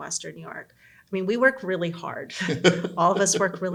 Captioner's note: both laughing